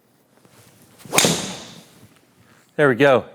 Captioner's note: ball cracking